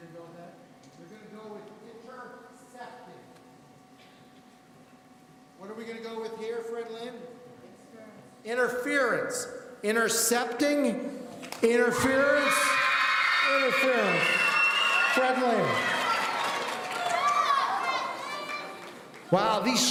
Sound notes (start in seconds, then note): 15.7 audience cheering